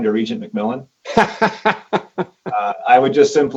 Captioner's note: laughs